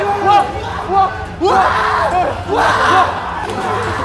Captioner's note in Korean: 괴성